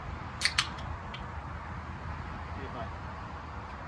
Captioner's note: can opening